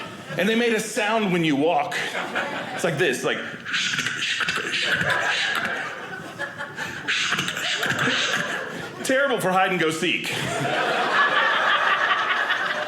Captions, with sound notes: And they made a sound when you walk. It's like this like (funny noise) Terrible for hide and go seek. (audience laughing)